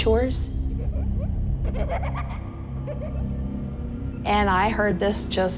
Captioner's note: child laughing